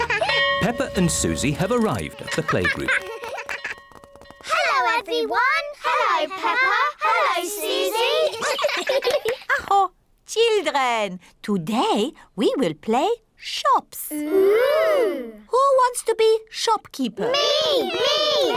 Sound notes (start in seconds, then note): 8.1 all laugh; 9.0 claps hands; 9.3 exclaims